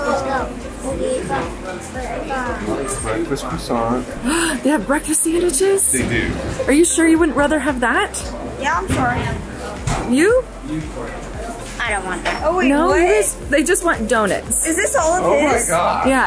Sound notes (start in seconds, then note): 4.2 gasps